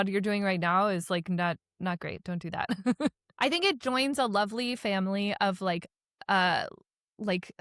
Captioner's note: laughs